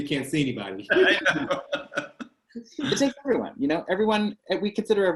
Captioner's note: voice scrambles